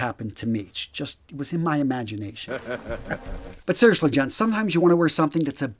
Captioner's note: sound effect